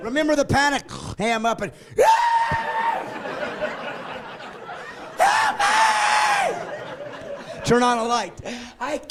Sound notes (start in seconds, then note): 5.2 screaming; 7.2 laughing